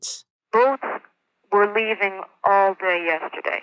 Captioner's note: archival news audio; archival news audio